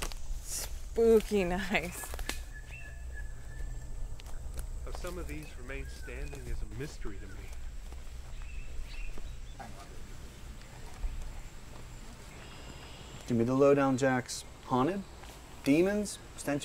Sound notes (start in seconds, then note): none